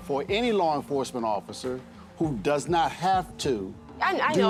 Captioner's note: none